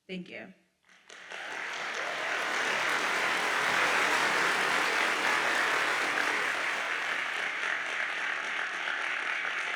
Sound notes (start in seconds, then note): 0.9 audience applauds